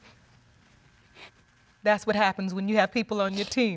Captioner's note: voice breaks